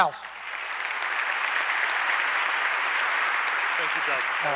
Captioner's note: audience applauding